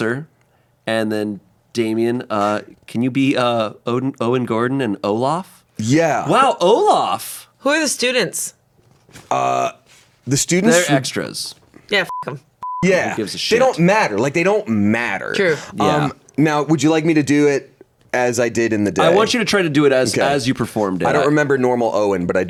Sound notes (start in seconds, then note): 12.6 beep